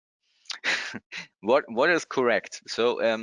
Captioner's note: laughs